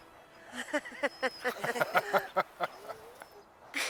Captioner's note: all laughing